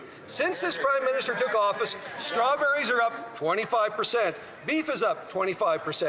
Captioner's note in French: voix de l'interprète